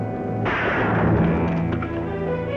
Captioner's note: gun Shot